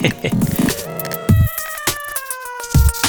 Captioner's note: laughs